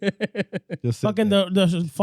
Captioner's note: laughing